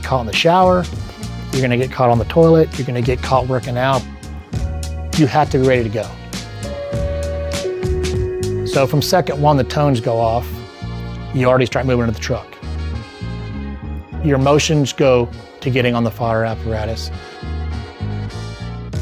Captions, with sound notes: in the shower, you're gonna get caught on the toilet, you're gonna get caught working out. You have to be ready to go. (alarm ringing) So from second one, the tones go off, you already start moving into the truck. Your motions go to getting on the fire apparatus.